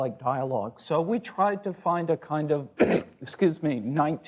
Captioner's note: coughs